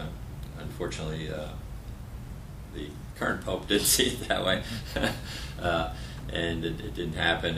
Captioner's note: laughter